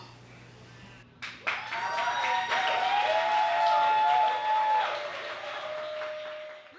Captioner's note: audience cheers and applauds